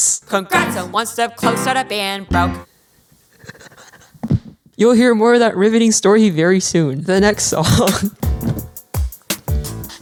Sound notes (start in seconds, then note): 2.5 silently laughs